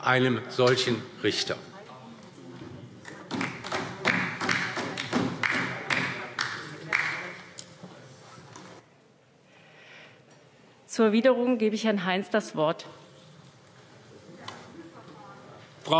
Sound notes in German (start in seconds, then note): 4.0 Beifall DIE LINKE